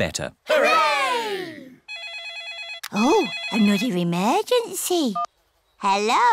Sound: phone rings

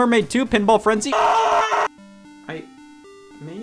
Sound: screaming

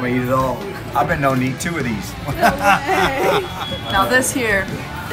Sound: laughs

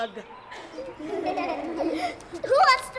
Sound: laughing

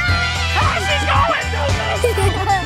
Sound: screams; laughing

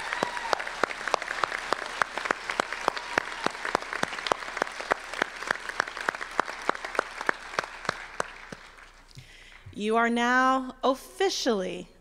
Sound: applause

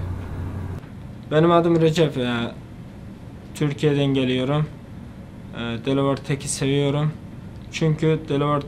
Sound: in Turkish

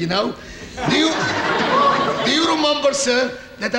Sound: audience laughing

